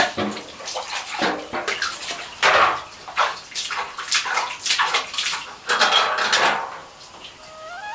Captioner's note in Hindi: नौले से पानी भरने की आवाज़